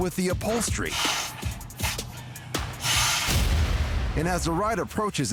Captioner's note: blowing nose, sniffles